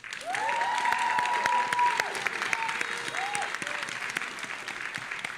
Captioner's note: audience applauding and cheering